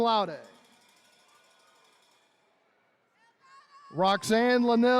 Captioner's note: attendees cheering